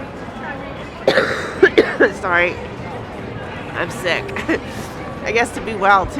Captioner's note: coughs